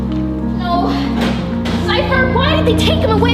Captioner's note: door closes